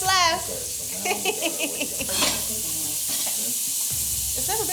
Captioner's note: steak sizzles